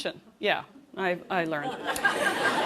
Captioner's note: laughter